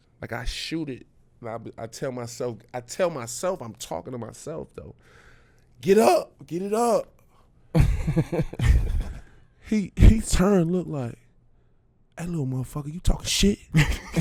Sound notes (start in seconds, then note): 7.7 laughing